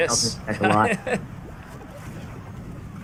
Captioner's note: laughs